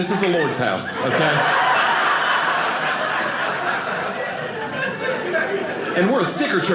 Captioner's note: audience laughing